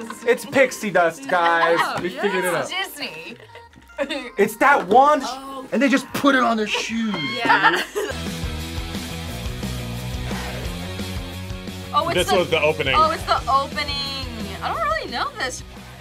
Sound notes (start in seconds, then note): 6.7 laughs; 8.3 upbeat music